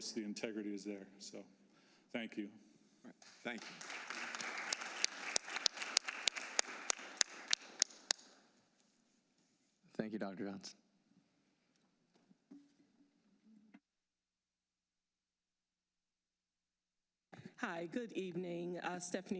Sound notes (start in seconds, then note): 5.5 applause